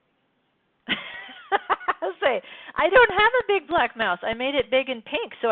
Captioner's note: laughs